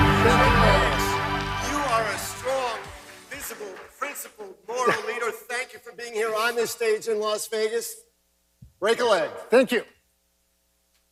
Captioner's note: applause